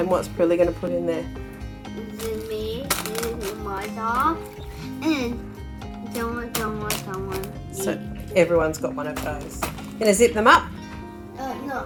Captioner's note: conversation